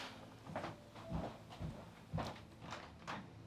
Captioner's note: footsteps